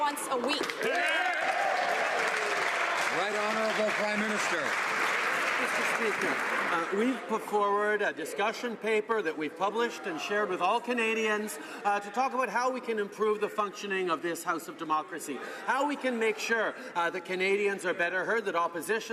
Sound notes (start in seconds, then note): 4.2 some Applause